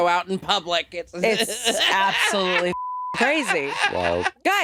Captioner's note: laughing; beep